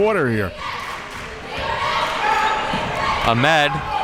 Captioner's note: crowd chanting defense